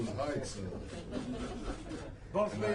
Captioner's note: laughter